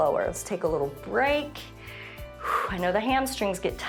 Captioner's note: short exhale